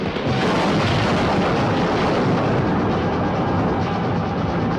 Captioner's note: crash booming